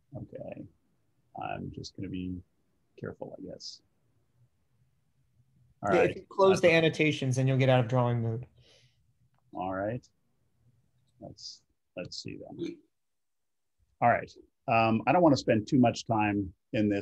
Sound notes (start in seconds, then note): 4.5 sharp Voice